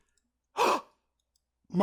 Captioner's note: gasps